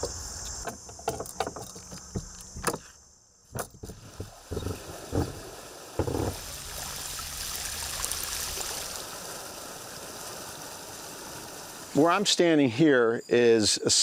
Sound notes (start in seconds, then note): 6.3 water trickling